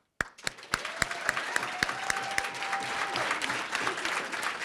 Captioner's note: crowd applauding